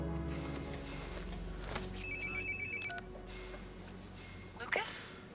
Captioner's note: alarm